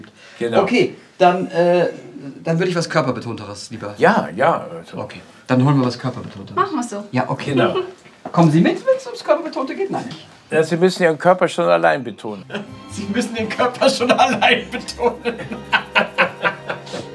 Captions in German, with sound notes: Genau. - Okay, dann würd ich was Körperbetonteres lieber ... Jaja. - Okay. Dann holen wir was Körperbetonteres. - Machen wir. Kommen Sie mit, wenn es darum geht? Sie müssen Ihren Körper alleine betonen. (lachend:) Sie müssen den Körper schon allein betonen.